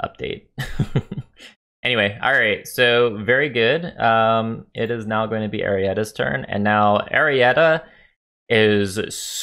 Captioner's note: laughs